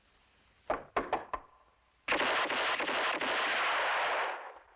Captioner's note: gunshots